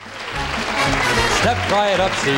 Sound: audience applauding

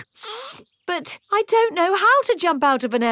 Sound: sniffs

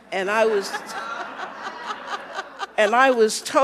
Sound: audience laughing

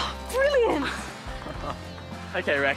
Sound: gasps

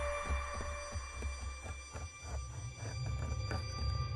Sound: scratching

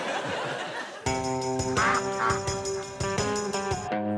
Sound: ducks quack

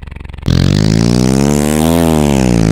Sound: engine noises

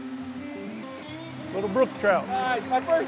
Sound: fishermen talking

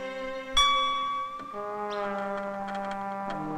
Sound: tone warbles

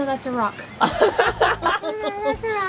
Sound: laughter

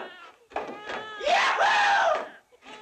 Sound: baby crying

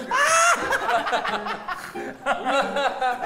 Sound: laughing

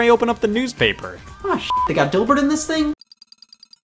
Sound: beep

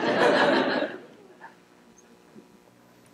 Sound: laughter

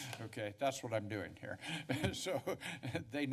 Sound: laugh

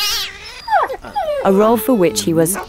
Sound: cats yowling; dogs whimpering

